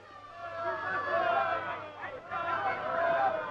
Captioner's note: crowd shouting